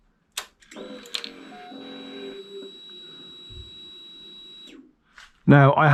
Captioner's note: ignition Sounds